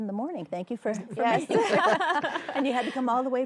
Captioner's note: chuckles